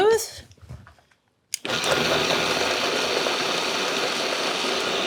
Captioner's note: blender whirs